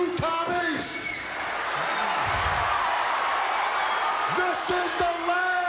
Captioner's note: crowd cheers